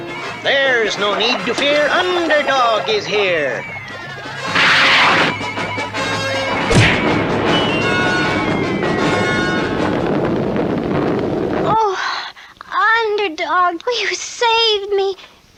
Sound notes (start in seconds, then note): 4.0 smack!